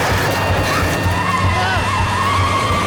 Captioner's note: shrieking